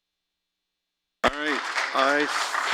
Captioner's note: applause